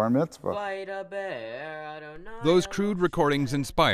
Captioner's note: chanting in foreign language